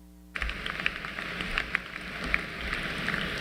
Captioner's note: applause